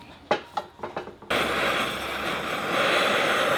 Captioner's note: torch sound